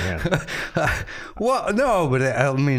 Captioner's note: laughing